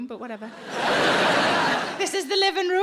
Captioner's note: audience laughing